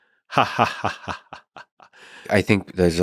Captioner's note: Eliezer laughing mockingly